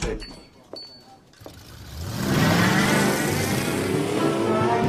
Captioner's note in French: Vrombissement